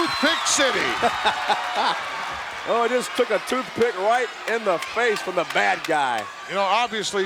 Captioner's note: laugh